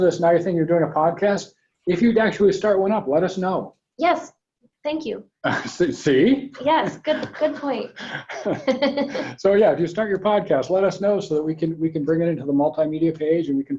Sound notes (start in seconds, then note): 8.0 laughs; 8.5 laughing